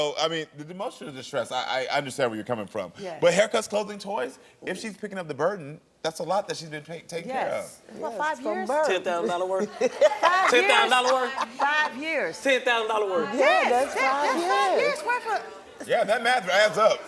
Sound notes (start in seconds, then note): 10.5 all laughing